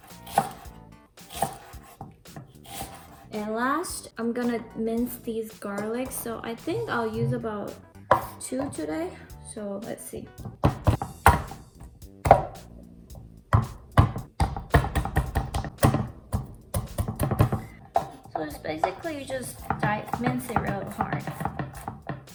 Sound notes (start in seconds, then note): 10.4 thump Thump